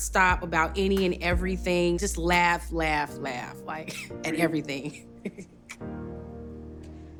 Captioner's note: laughs